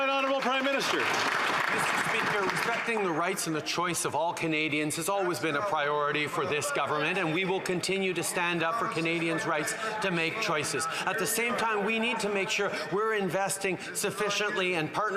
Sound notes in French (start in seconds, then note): 6.3 voix de l'interprète